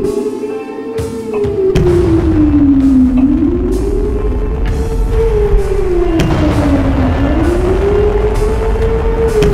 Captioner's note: air horn sirens; explosions outside